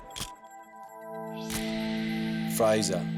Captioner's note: camera shutter click